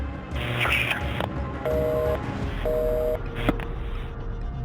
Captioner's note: busy signal